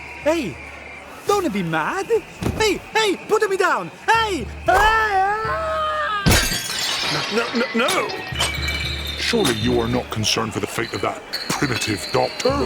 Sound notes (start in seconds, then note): 6.3 crashes